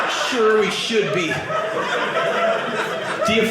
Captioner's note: audience laughing